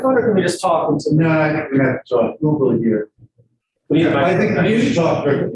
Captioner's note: indistinct conversation